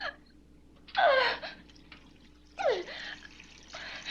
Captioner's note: crying